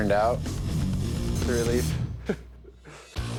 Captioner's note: chuckles